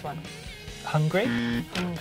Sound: alarm

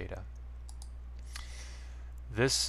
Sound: mouse click

